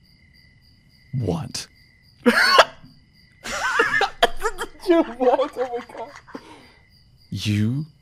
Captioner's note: laughter